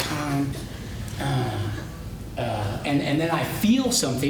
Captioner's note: sighs